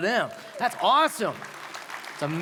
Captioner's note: applause